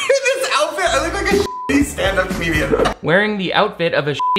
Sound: beep; beep

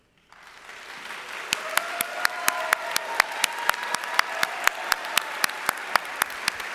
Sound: audience applauding and cheering

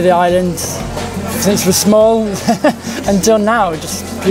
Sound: chuckles

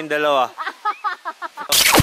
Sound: more laughing

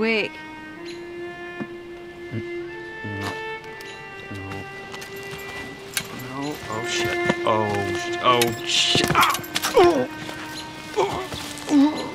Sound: cries of pain

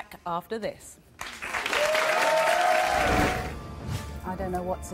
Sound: applause

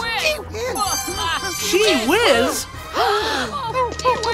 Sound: gasp

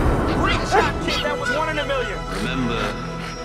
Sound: bark; panting

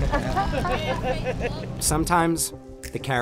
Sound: group laughing

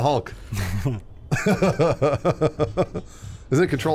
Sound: laughing

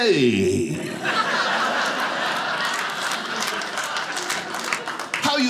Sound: audience laughing

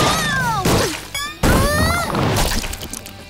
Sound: groaning

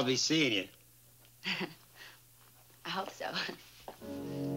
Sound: chuckling

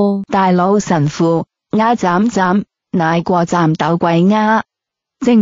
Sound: chung Shan dialect

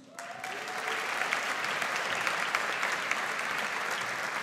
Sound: audience applauds

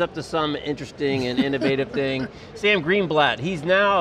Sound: laughs

